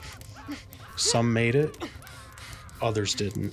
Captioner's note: soldiers screaming